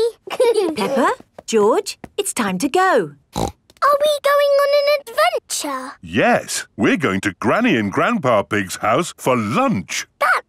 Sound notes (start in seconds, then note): 0.2 both giggling; 3.3 snorts